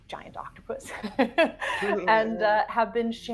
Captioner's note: person laughing